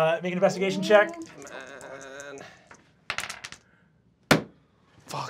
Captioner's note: dice clacking